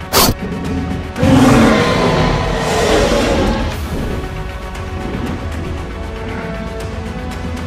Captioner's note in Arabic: أصوات المعركة